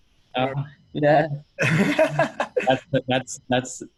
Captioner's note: laughing